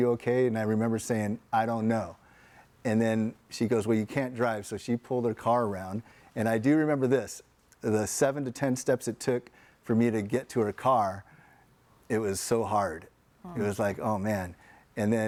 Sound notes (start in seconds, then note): none